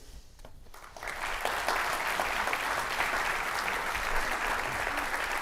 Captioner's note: audience applauding